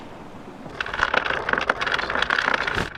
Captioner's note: chain clinking